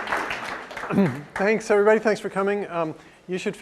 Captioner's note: applause; cough